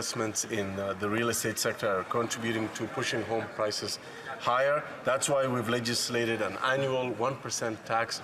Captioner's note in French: voix de l'interprète